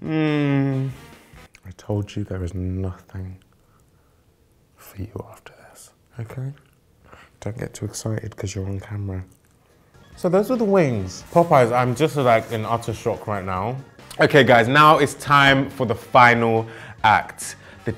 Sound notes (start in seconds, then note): 6.9 whispering